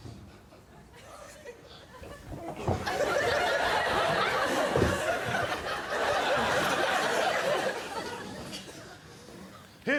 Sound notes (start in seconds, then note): 2.9 laughing continues